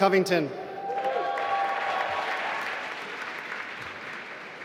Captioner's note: applause